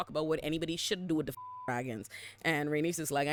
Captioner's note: beep